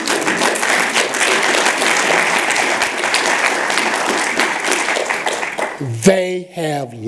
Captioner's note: applause